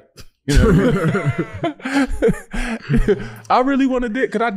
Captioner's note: laughing